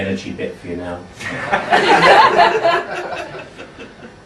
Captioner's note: laughing